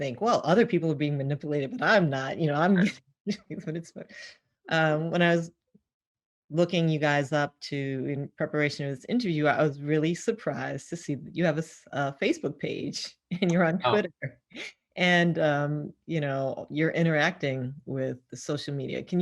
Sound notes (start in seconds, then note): 2.8 laughs